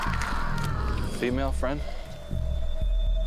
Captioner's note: roaring, flesh tearing; woman screaming